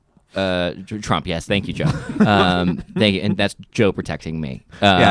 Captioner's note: laughs